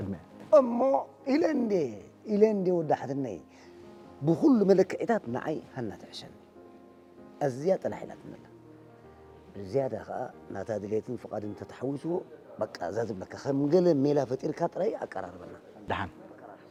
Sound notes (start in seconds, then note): none